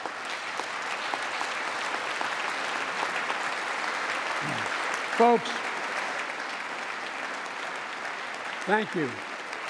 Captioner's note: applause